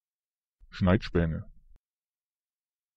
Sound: fast Pronunciation

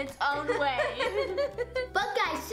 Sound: laughing

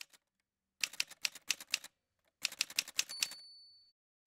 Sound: typewriter sounds

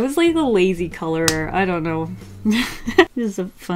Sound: laughs

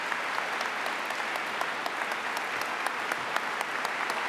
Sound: applause

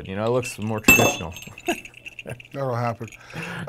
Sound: laughing

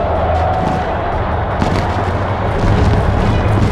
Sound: boots marching

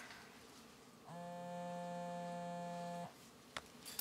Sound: cell phone vibrates

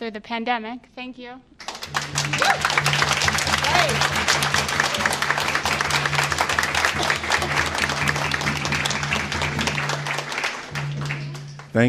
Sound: applause

